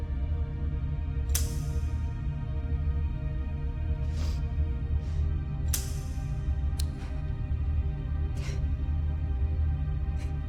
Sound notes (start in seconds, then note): 1.3 gun snaps; 3.7 sniffs; 5.7 gun snaps; 8.3 gasps